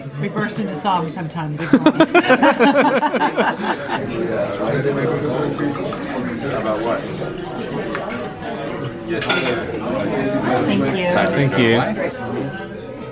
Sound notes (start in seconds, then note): 1.5 they laugh; 4.0 wine trickling